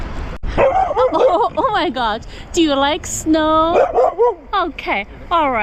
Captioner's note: a barking dog